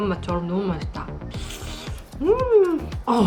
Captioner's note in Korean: 후르릅